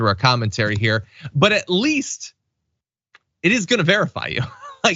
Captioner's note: laugh